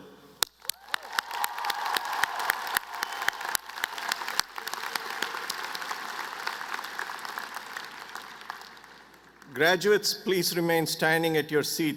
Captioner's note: applause